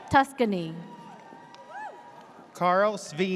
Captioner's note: audience cheers